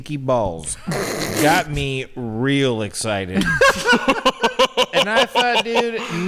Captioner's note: men laugh